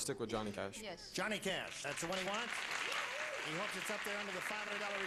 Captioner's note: applause